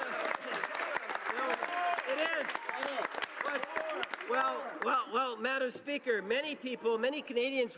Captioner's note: cheering and Applause